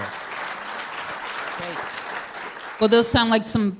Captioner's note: applause